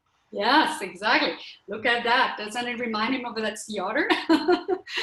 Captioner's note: laughter